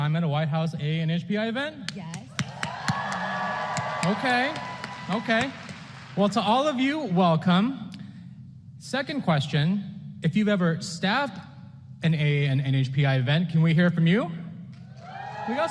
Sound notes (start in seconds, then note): 2.2 applause